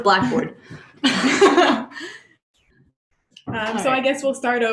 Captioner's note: laughter